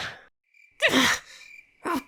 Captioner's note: gasp